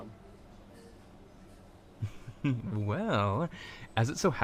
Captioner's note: laughs